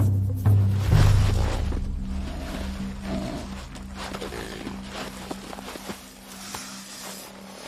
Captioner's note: snake hissing; perentie grumbling